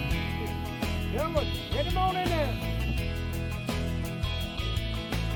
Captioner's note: man shouting